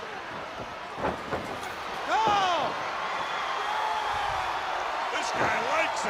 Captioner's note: crowd cheering